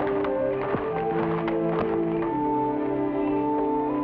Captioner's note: footsteps patter